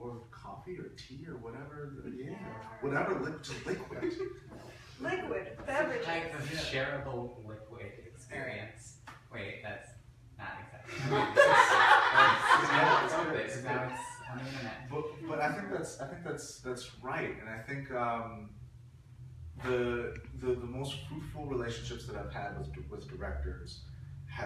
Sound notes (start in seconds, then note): 10.9 laughing